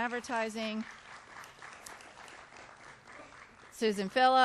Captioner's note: applause